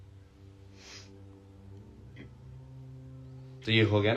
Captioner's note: नाक से की जाने वाली आवाज़